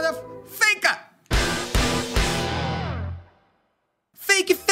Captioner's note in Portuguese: som de destaque